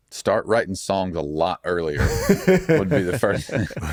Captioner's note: laughing